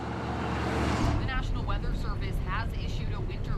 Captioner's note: radio Announcer